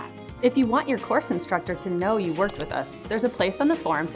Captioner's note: mouse Click